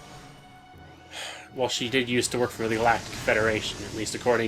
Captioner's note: sigh